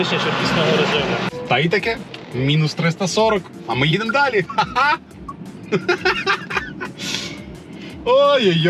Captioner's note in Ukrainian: сміх